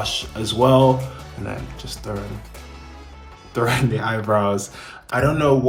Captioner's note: laughing